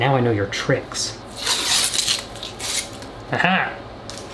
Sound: paper tearing; man chuckles

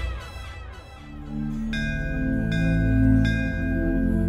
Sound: bells tolling

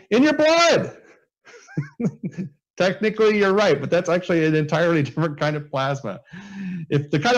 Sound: laughs

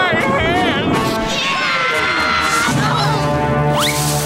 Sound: screaming

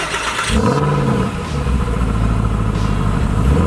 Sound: starting the engine; engine humming

